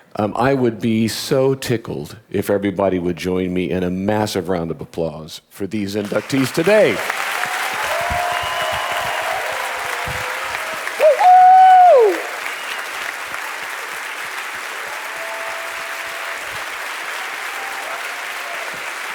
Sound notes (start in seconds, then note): 7.2 audience applauding; 11.2 audience cheering